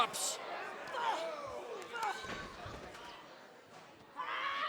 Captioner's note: wrestlers snarl